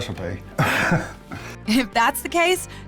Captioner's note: chuckles